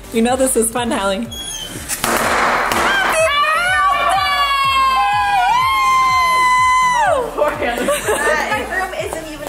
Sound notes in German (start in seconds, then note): 1.9 Partykracher explodieren; 3.1 Jubel